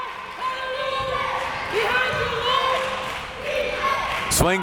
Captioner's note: crowd members chanting